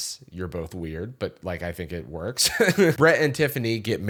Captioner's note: laughs